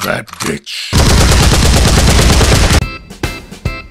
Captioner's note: gunfire; upbeat Outro Music